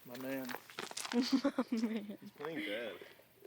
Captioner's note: laughing